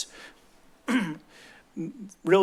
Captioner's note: clears throat